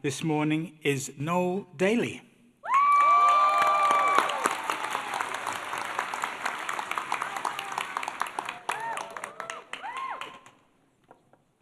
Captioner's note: applause